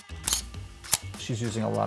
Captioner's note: camera snaps